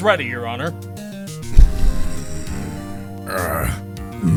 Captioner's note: growling